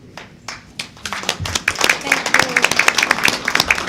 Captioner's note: applause